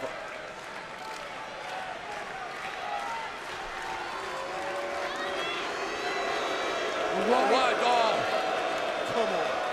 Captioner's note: crowd cheering